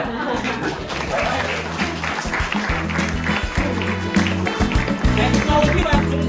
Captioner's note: applause